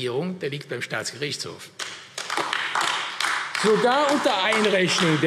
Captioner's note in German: Beifall AfD